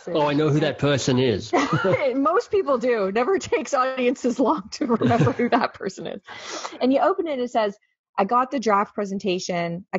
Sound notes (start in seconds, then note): 1.5 laughing